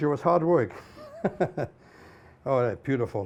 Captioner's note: laughs